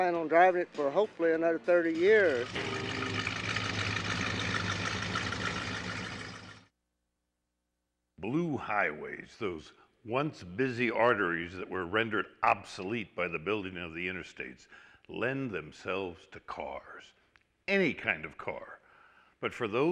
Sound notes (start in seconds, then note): 2.2 engine revving